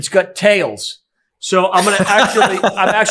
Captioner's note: laughing